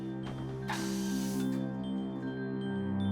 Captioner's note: soft music playing; air hissing